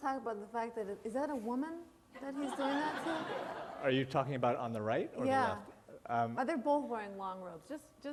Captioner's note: laughter